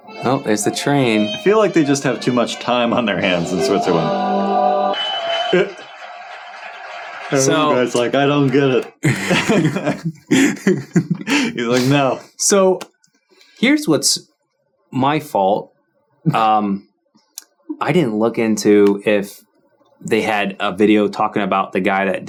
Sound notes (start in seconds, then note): 0.9 upbeat music; 4.9 audience applauding and cheering; 9.0 chuckling